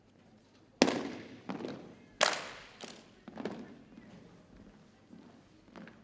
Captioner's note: rhythmic thumping and clapping